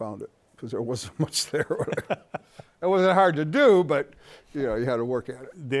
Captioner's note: both laughing